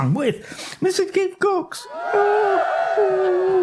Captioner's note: cheerin